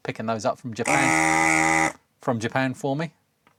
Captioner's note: buzzer